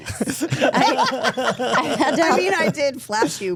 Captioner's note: everyone laughing